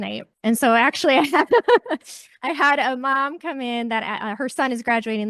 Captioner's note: laughs